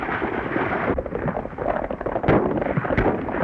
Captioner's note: gunshots